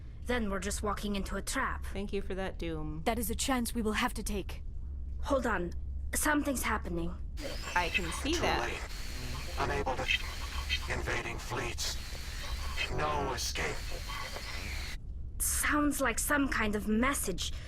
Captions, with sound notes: Then we're just walking into a trap. That is a chance we will have to take. Hold on, something's happening. --too late. [static]... unable to... [static] ... invading fleets... [static] ... no escape... [static]... Sounds like some kind of message.